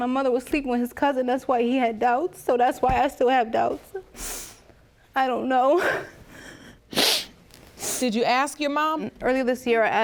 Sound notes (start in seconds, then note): 6.8 sniffs